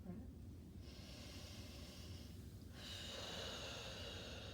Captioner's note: breathing deeply